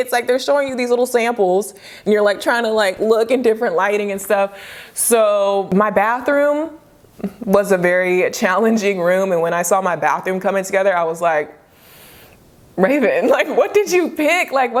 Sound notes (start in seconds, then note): 11.7 inhales sharply; 13.3 chuckles